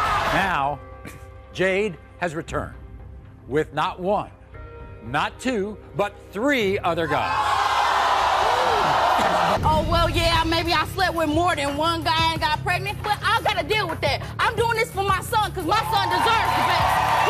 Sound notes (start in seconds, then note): 7.1 crowd jeers